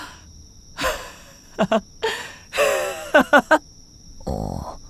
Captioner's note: laughs